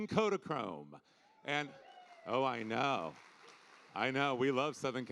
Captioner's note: audience cheering